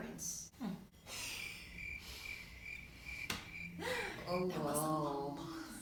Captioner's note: crickets noise